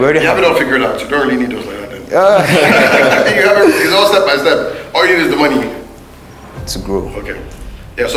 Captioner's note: laughs